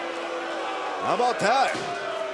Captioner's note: cheers & boos